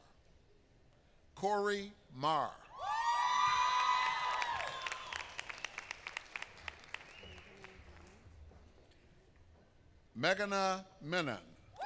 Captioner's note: applause